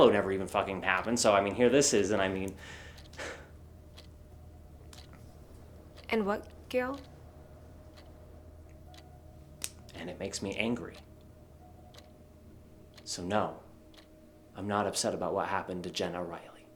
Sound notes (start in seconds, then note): none